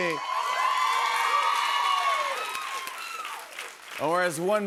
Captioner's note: cheers and applause